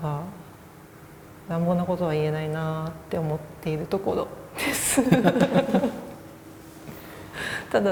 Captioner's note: laugh